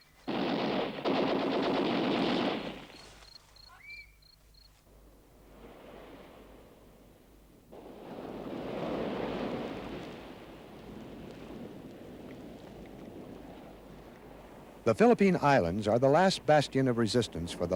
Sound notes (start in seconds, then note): 0.0 leaves rustle; 1.1 gun rattles; 2.3 crickets chirp; 3.5 bird tweets; 5.7 sea murmurs; 11.0 wind whistles